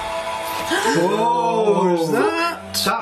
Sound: gasping

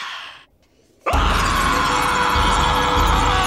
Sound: screaming

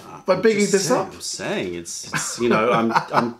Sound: laughter

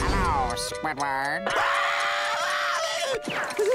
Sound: Squidward screaming

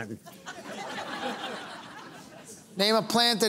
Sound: laughter

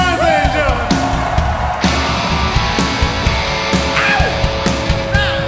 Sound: audience cheering

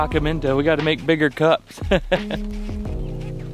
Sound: laughs

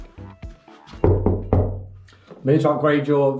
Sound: knocking

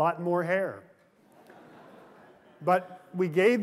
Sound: laughter

